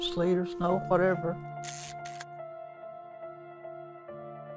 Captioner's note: camera shutter clicks